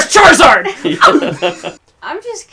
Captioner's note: laughs